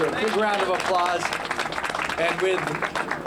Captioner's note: applause